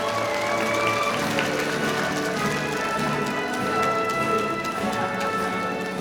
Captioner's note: audience cheering; audience applauding